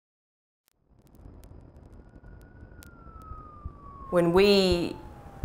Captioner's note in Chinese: 警笛声